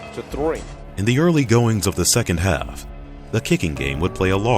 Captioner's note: voiceover